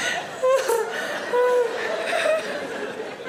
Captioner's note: Sarah laughs